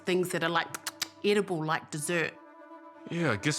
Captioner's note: smacks lips